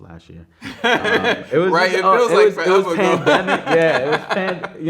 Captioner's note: man laughing